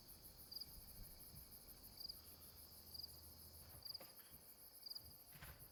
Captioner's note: crickets chirping